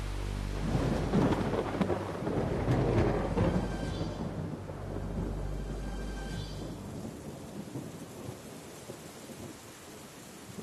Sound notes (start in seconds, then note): 0.0 thunder crackles; 6.8 rain trickling in distance